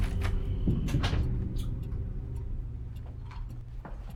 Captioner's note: door clicking